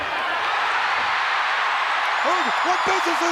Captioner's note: crowd cheers